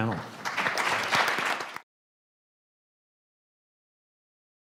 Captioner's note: audience applauds